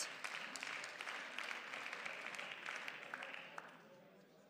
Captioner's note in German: Beifall